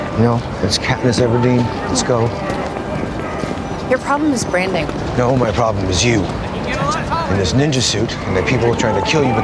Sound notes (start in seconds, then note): 2.5 people chattering